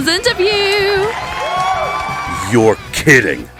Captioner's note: the Audience cheers